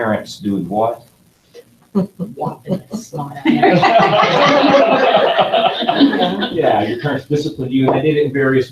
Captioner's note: laughing